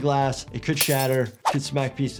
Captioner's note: glass shattering